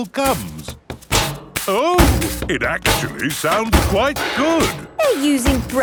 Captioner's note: rhythmic clanging